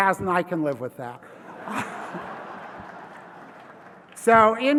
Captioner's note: laugh